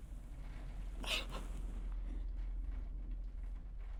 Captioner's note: sobbing